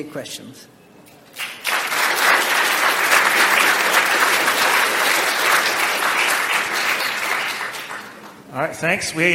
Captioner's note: audience clap